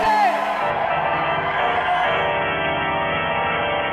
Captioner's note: audience cheering